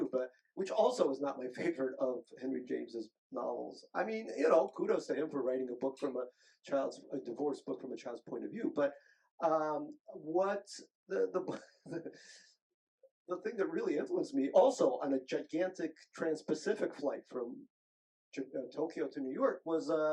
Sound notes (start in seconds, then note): 11.1 chuckles